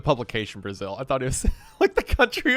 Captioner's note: laughing